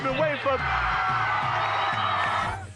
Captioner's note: crowd cheering